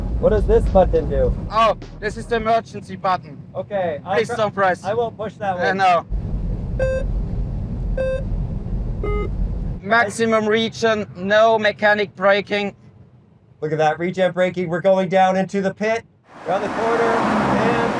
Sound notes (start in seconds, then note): 6.4 timer beeping